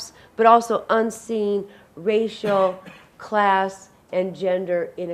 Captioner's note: audience member coughs